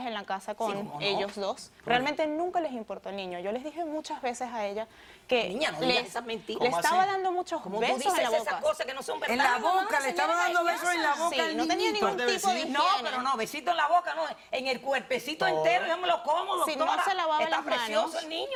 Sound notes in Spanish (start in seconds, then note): 6.4 Hablan al unísono